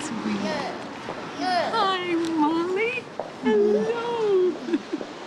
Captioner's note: laughs